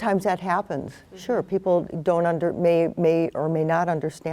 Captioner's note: stammers